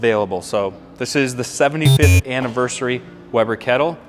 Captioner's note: buzzer rings